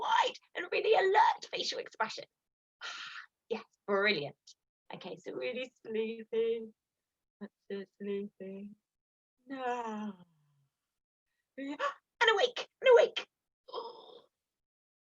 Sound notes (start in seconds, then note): 9.5 yawns